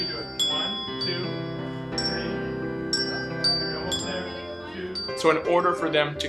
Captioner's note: hand bells